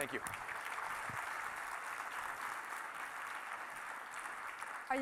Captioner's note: audience applauds